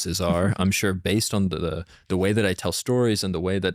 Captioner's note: laughs